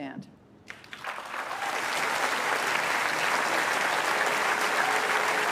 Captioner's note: applause